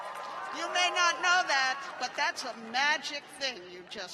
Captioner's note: cheers and applause